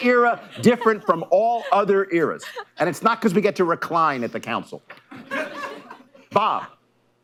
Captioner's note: laughter